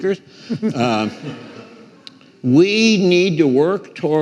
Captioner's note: some audience members laughing